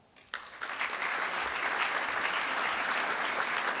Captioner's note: audience applauds